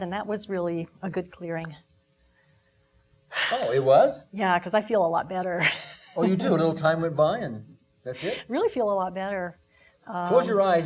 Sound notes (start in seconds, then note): 3.3 exhaling; 5.7 laughing